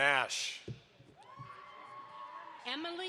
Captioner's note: audience applauds